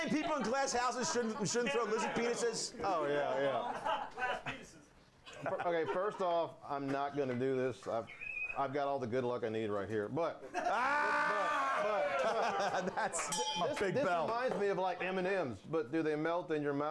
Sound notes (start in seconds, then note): 10.4 laughter; 13.2 bell rings